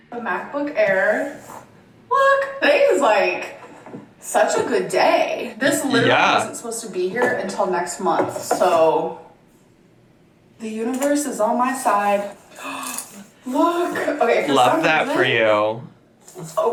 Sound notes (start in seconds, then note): 13.0 gasps